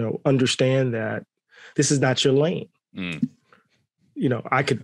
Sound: none

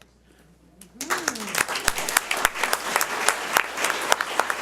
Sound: audience applauds

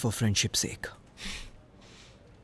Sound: sighs

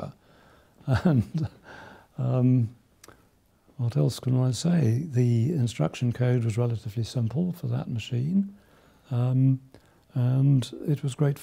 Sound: chuckles

